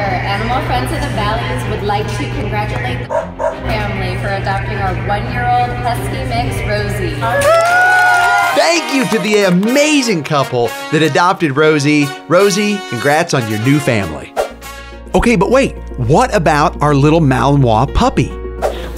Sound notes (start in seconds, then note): 3.1 dog barks; 7.2 staff cheering